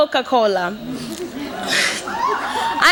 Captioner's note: cheers and laughter